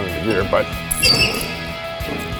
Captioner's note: squeek